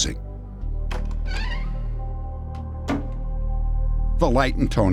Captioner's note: door creaks